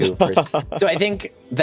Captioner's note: laughter